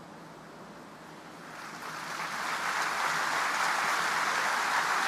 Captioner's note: audience applauding